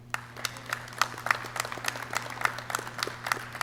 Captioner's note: clapping